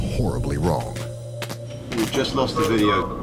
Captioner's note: electricity crackles